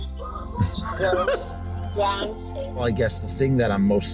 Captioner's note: amused laughter